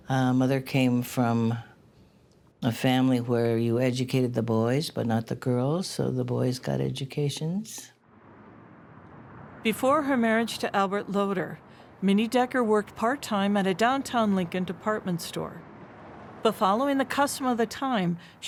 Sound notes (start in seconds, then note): 8.0 wind rustling